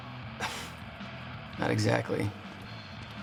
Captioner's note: laughs